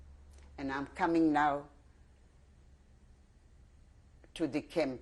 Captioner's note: pauses for 3 seconds; pauses for 3 seconds